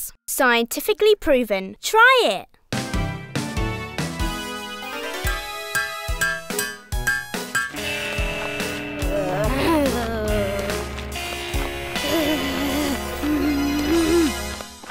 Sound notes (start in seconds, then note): 9.6 groaning